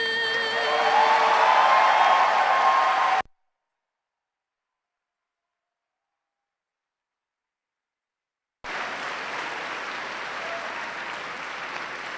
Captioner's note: cheers and applause